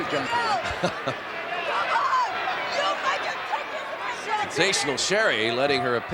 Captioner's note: laugh